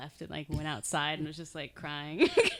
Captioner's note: laughing